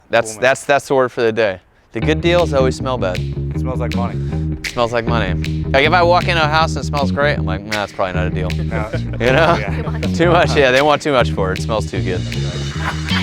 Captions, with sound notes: - That's the word for the day. The good deals always smell bad. - It smells like money. - It smells like money. If I walk in a house and it smells great, I'm like it's probably not a deal. (laughing) Too much, yeah they want too much for it. It smells too good.